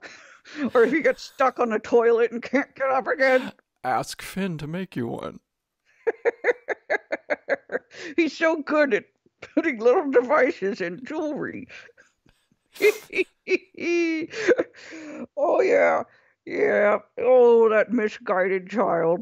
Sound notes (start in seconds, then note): 6.0 chuckling